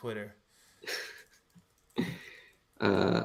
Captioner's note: laughs